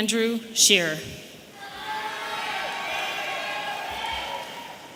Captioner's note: audience cheering